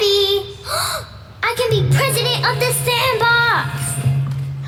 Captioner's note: gasps